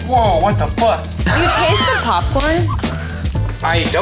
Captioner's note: laughs